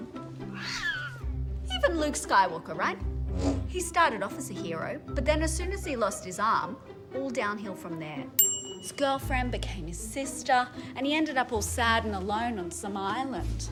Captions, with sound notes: (Cat screams) Even Luke Skywalker, right? (Vrruum sound) He started off as a hero, but then as soon as he lost his arm, all downhill from there. (Ding) His girlfriend became his sister, and he ended up all sad and alone on some island.